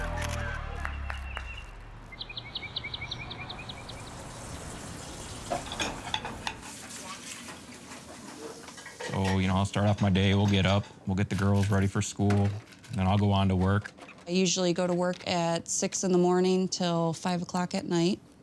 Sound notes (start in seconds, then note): 5.2 utensils clattering; 5.3 water flowing